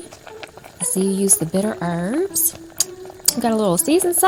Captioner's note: smacks lips